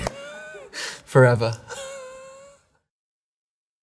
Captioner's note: chuckles